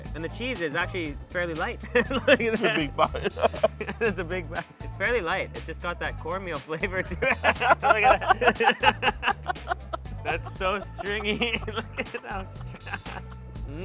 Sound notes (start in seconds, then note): 1.9 laughs; 7.0 laughs; 13.0 laughs